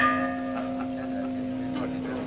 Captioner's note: bell pealing; congregants chattering indistinctly